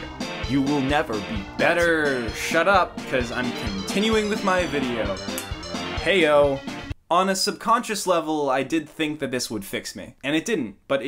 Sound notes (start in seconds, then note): 5.3 snaps; 6.8 clown Music Stops